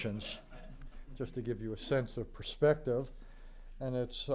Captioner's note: laughter